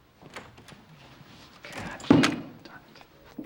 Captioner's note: door opens and closes